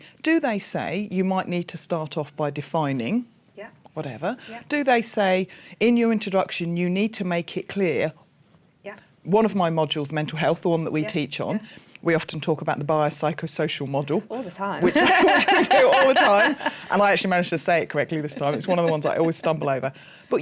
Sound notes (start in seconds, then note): 14.8 laughter